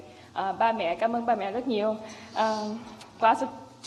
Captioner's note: speaks foreign language